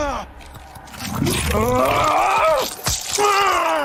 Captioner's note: Homelander grunting; ominous music; flesh squelching; Homelander screaming; eyeball pops; Homelander screaming